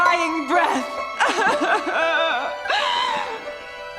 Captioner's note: crying